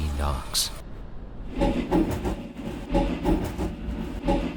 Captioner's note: rapid knocking